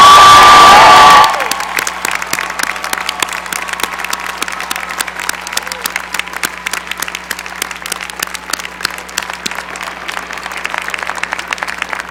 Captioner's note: cheering and applause